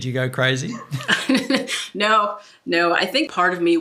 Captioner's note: laughs